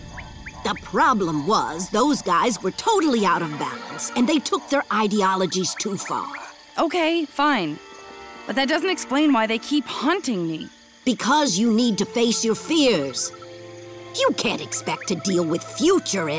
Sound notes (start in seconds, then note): none